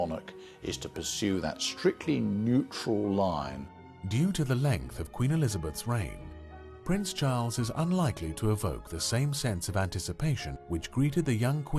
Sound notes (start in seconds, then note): 3.7 voiceover